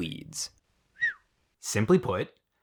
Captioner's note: Gary whistles